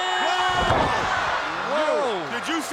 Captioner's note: crowd cheering